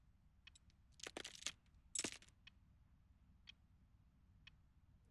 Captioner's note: rosary clinks